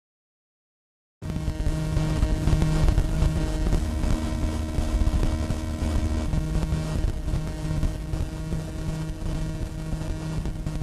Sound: sound of static noise

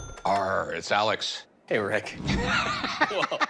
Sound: laughs

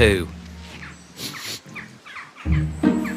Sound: sniffs

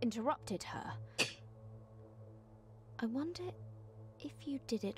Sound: scoffs

